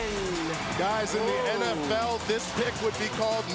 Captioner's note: crowd cheering